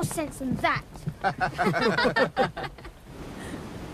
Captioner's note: laughter